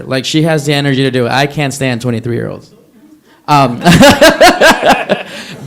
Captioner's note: laughs